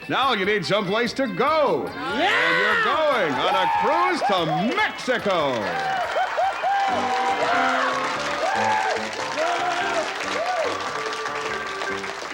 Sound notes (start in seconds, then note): 6.4 cheering, shouting; 7.6 yells and shouts